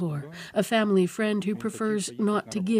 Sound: speaking alternate language

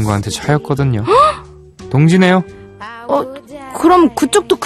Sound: gasp

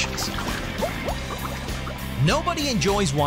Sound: bubbling

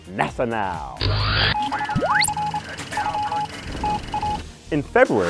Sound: sound Effects

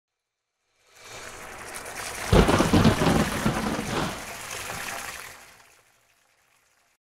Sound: water gently splashing; thunder clapping

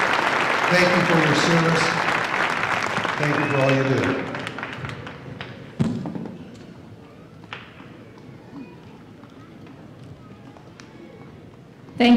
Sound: applause

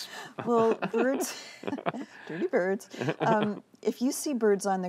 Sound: laughter

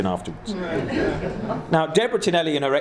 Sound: laughing

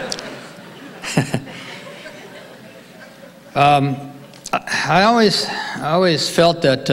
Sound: audience laughing; laughs

